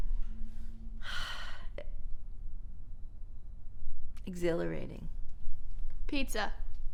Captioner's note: sighs